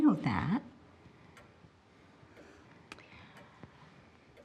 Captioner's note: clock ticking